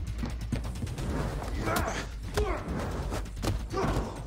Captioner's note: both grunting